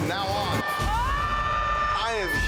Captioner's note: person yells